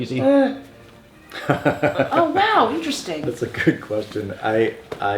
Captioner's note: laughs